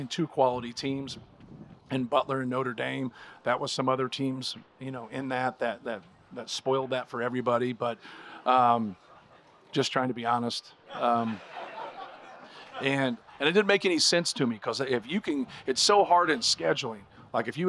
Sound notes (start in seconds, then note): 10.8 crowd laughing